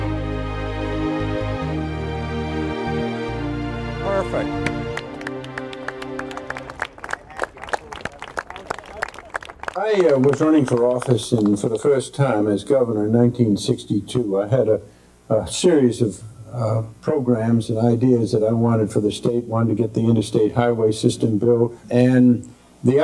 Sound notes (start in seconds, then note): 4.6 crowd clapping